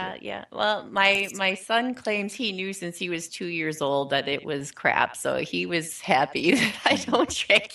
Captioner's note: laughing